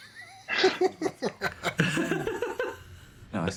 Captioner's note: giggling